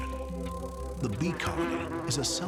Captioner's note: bee buzzing